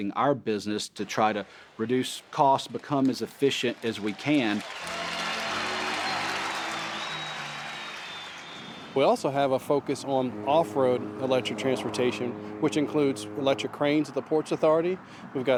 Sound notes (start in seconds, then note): 5.4 audience applauds; 5.4 organ music